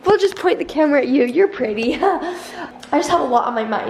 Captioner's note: laughs